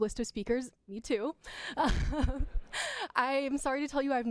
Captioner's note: laughter